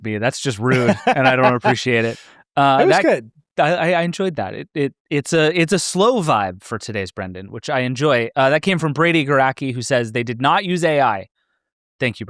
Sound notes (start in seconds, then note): 0.6 laughs